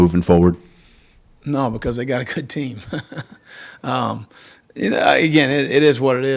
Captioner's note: laughs